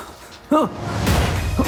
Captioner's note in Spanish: Disparo